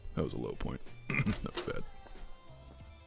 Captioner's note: clears throat